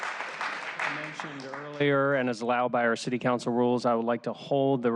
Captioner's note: applause